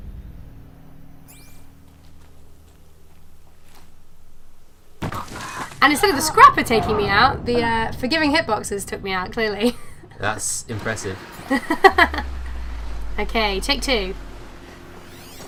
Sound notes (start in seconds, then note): 11.4 laughs; 11.4 laughter